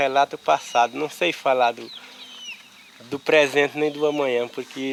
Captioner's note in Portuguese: Canto de pássaros